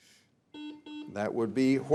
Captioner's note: buzzer beeps